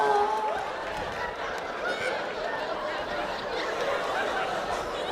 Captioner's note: audience laughing